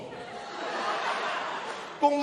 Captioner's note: laughter